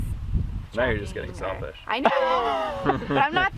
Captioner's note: laughs